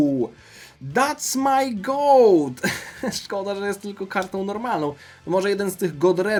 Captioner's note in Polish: śmiech